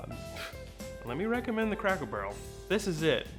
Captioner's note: scoffs